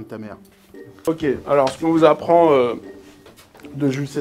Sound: burp

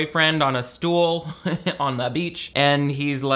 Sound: laughs

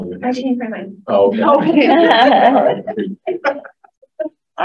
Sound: laughs

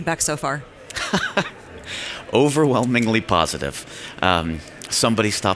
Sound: laughs

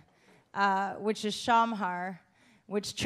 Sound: speaking German

